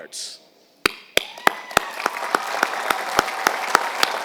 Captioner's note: applause